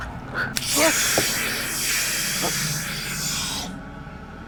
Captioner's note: screaming